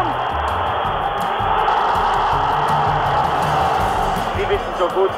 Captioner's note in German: Applaus